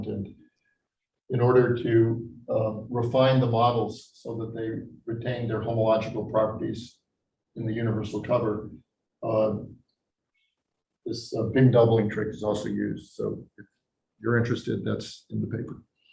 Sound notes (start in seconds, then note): none